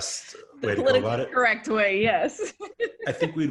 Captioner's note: laughs